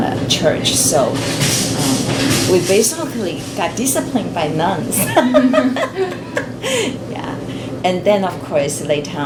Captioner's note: all laugh